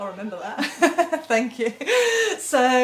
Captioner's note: both laughing